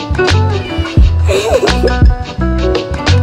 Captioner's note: meow; laughter